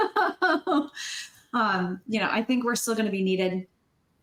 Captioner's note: laughing